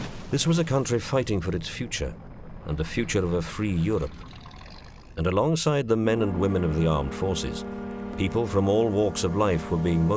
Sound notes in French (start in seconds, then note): 0.4 bâtiment en train de s’écrouler; 4.1 moteur de voiture; 8.1 son de corne de brume